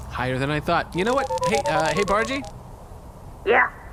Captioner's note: sending transmission sound; over comms